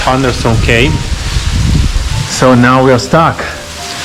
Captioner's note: heavy rain